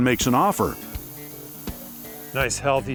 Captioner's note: sprays engine